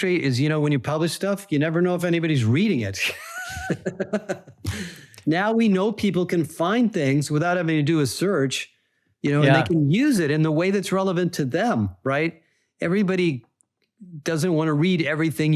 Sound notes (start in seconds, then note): 3.0 laughs